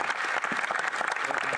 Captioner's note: applause